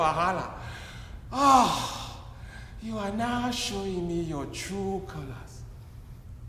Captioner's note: grunts